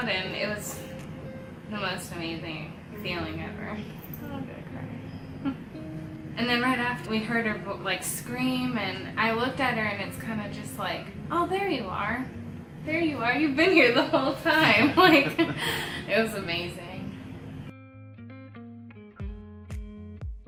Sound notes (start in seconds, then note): 5.4 laughs; 14.4 laughing; 17.6 upbeat music